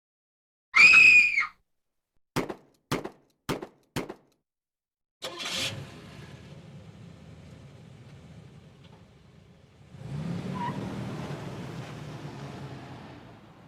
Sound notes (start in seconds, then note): 0.7 loud scream; 2.9 gun shots; 5.2 car engine starting; 10.2 car engine revving